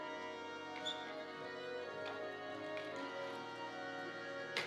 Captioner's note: shoes squeaking